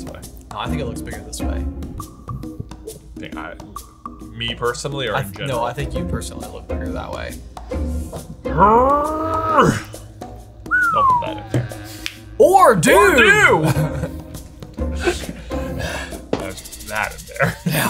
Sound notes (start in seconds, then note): 8.4 grunts; 10.6 whistles; 13.2 laughs